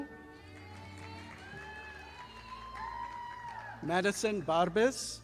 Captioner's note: audience applauding